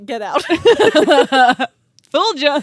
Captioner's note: both laughing